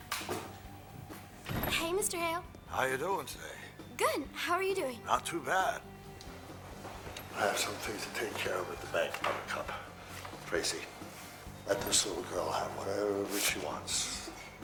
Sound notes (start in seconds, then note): none